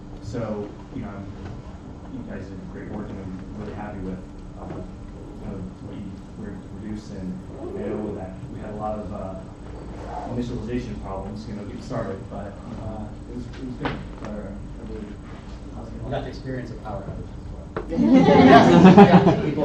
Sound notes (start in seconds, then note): 14.5 speaker drowned out by static; 18.0 everyone laughs